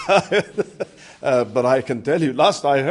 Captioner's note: laughter